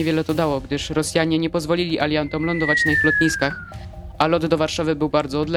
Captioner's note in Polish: krzyk